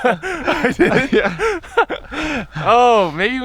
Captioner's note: both laughing